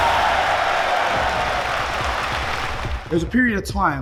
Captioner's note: audience applauding